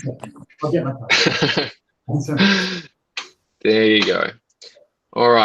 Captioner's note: laughs